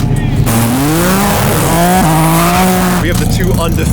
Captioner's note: engine buzzing